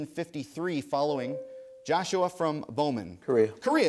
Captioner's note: ding